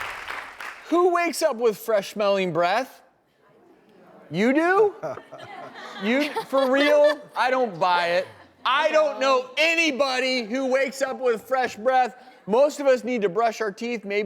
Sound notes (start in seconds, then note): 0.0 audience clapping; 5.0 laughs